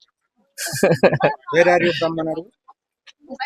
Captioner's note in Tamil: சிரிப்பு